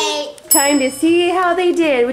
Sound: bell dings

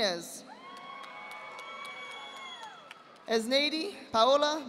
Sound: audience applauding

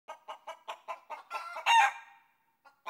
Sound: chimken clucks

